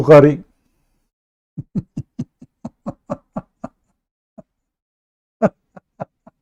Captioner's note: Ketawa